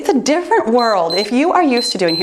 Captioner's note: timer beeps